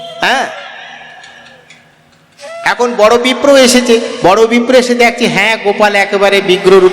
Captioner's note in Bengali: দীর্ঘশ্বাস